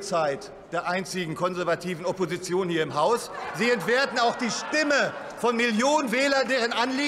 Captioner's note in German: Lachen bei Abgeordneten der SPD, der CDU/ CSU und des BÜNDNISSES 90/DIE GRÜNEN